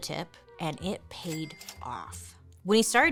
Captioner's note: cash register rings